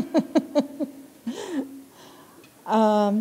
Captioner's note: chuckle